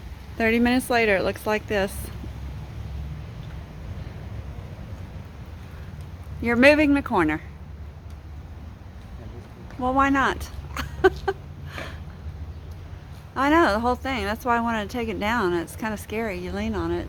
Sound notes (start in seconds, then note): 10.7 laughter